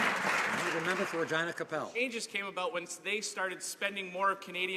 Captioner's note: some Applause